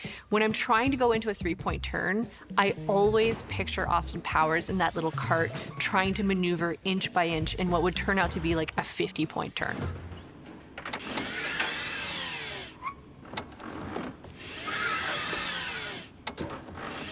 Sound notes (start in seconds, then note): 9.9 motocart rasping